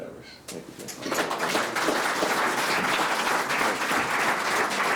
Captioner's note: all claps